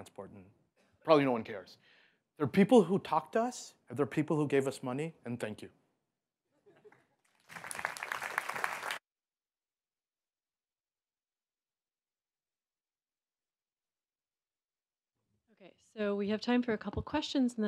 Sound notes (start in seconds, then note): 7.2 applause